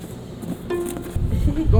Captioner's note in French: rires